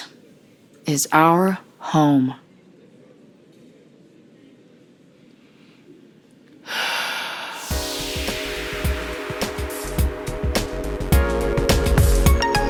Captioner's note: pauses, then breathes ... and exhales